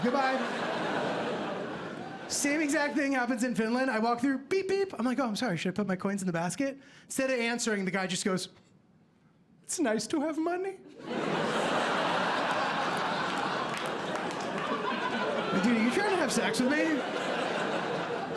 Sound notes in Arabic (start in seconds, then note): 11.0 ضحك